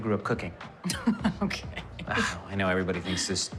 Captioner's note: laughing